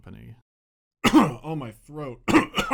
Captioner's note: cough; cough cough